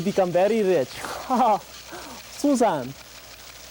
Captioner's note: laughs